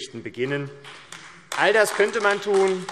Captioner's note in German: Beifall AfD